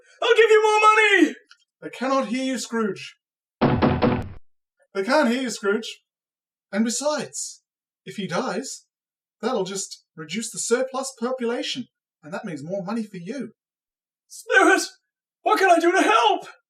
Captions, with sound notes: I'll give you more money! They cannot hear you, Scrooge... [Knocks on window] They can't hear you, Scrooge! And besides... If he dies, that'll just reduce the surplus population and that means more money for you... Spirit! What can I do to help?